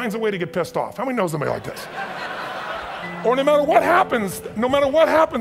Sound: audience laughs

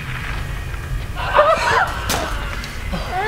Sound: Ernie screaming

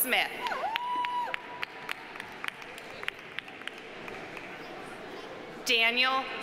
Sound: audience cheering; audience applauding

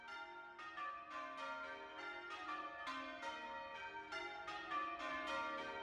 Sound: St James church bells ringing

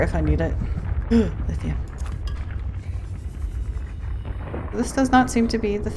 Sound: gasp

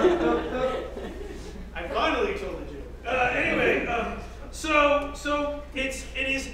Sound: laugh

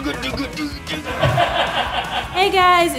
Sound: laughing

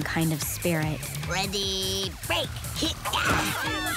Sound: grunting

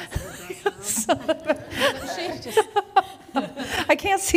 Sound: laughs

